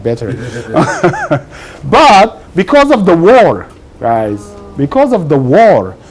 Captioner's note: laughs